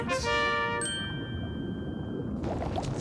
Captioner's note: ding